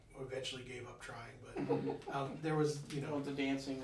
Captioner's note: laughing